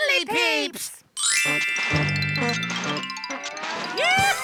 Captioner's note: soft twinkle